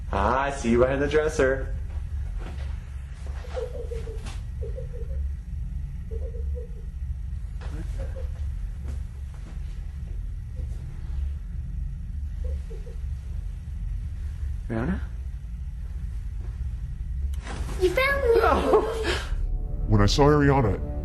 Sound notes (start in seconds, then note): 4.1 giggling